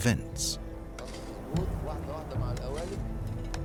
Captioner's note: speaking Arabic